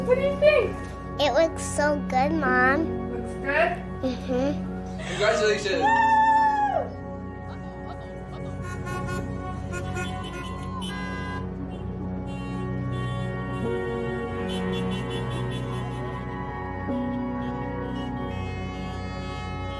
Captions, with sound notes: What do you think? It looks so good, Mom. Looks good? Mmhmm. Congratulations Wooo! [car horns honking]